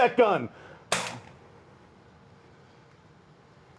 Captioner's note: gun bangs